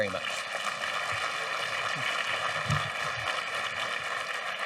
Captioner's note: audience applauding